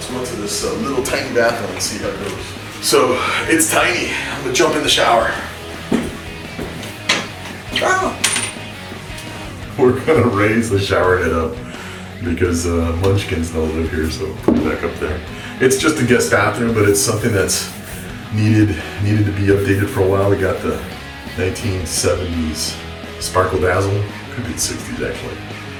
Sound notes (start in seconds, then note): 7.7 pretends to scream